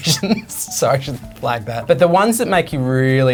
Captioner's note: laughs